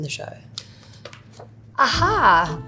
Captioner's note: page turning